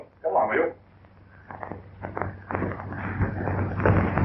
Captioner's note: fire crackling